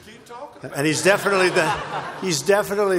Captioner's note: laughter